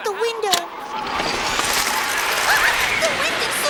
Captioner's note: harsh wind blowing